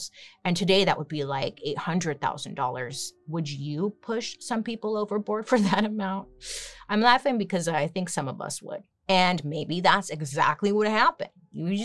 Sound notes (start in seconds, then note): 5.9 chuckles